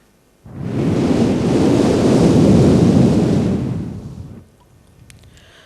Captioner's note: Shri Mataji blows through the microphone